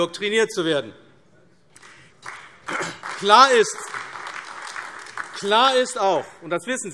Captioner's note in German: Beifall AfD